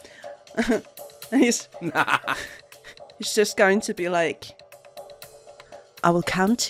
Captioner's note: laughter